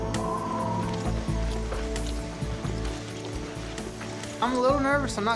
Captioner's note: suspense music; footsteps